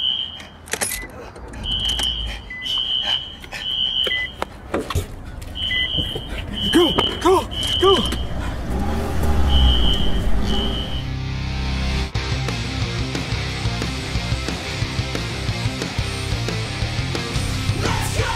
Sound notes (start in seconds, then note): 1.3 car starts